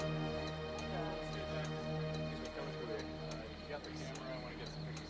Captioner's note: people Conversing; chatter On Police Radio